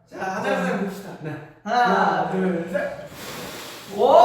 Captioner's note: blows